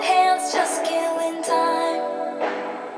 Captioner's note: cackling